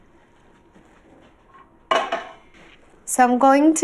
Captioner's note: pan rattles on burner